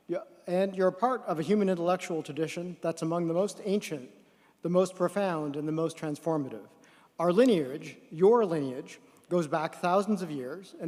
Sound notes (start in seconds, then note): none